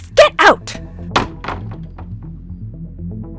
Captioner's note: slam